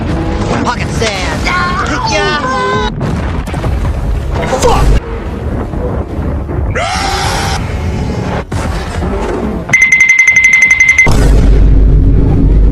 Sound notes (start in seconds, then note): 11.1 vine boom 1